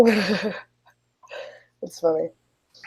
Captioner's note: laughs